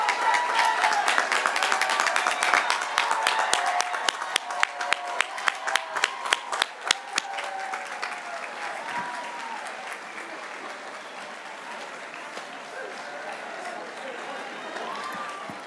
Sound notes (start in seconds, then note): 2.3 cheers and applause